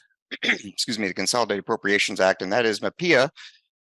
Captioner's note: coughs